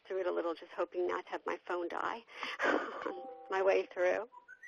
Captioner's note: laughs